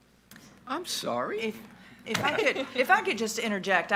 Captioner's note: chuckles